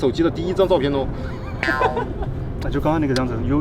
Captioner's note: laughing